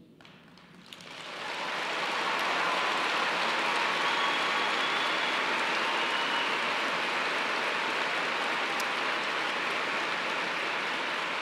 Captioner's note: applause